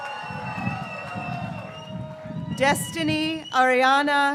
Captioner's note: graduates cheering